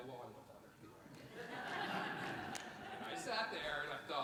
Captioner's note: everyone laughs